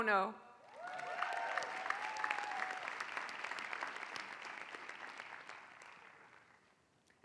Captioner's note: applause